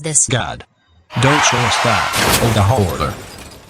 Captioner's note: car crash